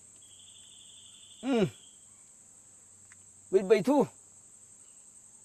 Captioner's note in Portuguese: imitando o jeito de falar